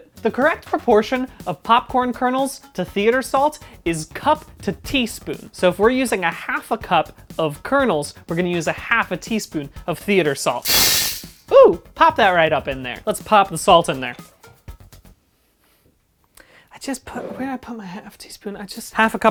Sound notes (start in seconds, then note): 10.6 loud rattling noise